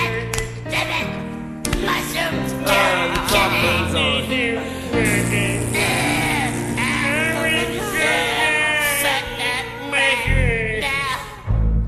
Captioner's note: fart